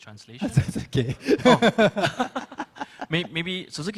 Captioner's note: speaks in foreign language